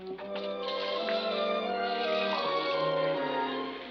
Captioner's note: water running